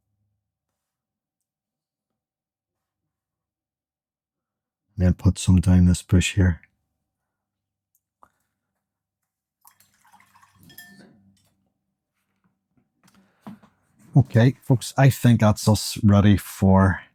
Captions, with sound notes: [Silence] Then put some down this bush here. [Silence] Okay, folks, I think that's us ready for...